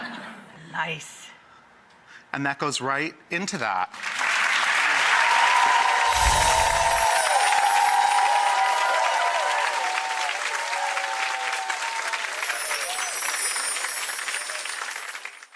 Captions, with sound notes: Nice. And that goes right into that. (applause)